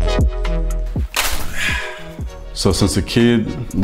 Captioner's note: Davante sighing